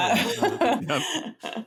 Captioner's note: laughs